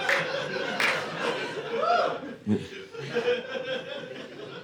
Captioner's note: audience laughing